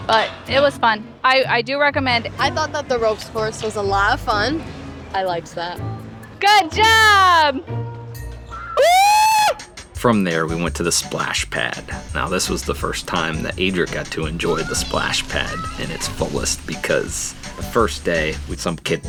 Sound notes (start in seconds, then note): 8.7 screams